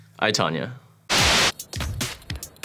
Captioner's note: white noise; upbeat music